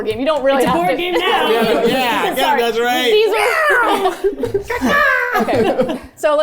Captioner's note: meowing